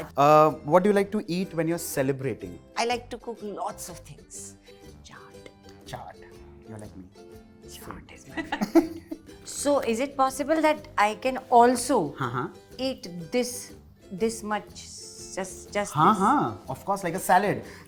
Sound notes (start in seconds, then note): 7.5 murmurs; 8.3 chuckles